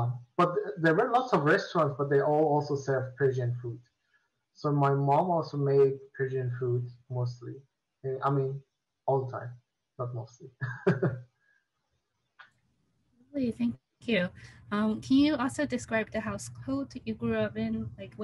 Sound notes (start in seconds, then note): 10.5 laughs